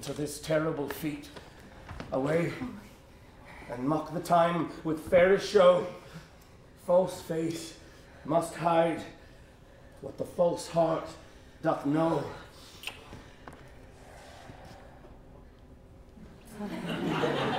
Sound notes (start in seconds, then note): 12.7 kiss; 16.4 laughter